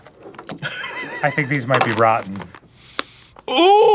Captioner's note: laughs